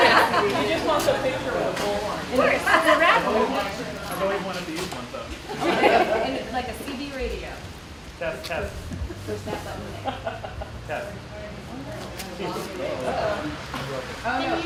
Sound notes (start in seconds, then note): 2.4 laughter